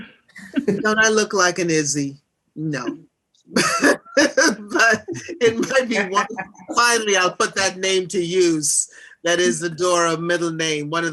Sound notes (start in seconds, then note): 3.5 laughs